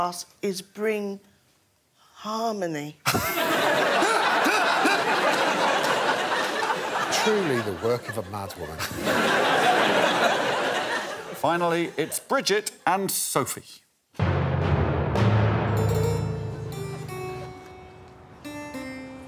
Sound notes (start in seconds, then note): 4.7 laughter; 10.6 laughter; 15.9 dramatic music playing